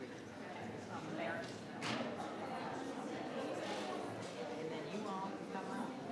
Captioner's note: people chattering